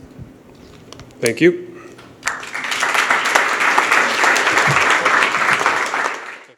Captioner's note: applause